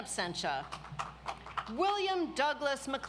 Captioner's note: audience applauds